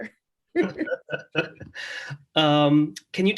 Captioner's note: laughter